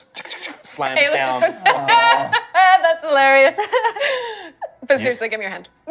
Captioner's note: elated laughter